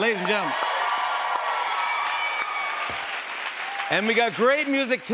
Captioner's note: cheers and applause